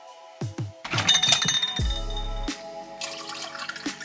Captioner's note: glass clanging; liquid pouring